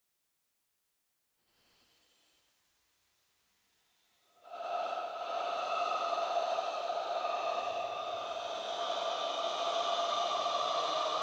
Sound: sound of ghost

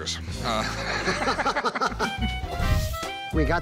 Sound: laughter

